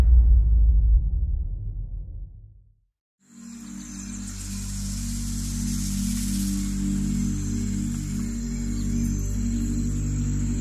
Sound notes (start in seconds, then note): 3.2 peaceful music; 3.3 birds and insects chirping